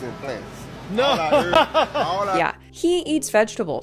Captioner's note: laughs